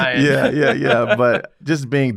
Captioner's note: laugh